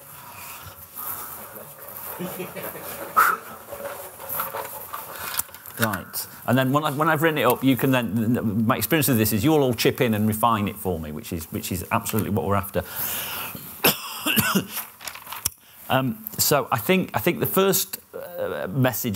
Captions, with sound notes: right and then when I've written it up you can then my experience with this is you're all chip in and refine it for me which is absolutely what we're after [coughs] so I think the first message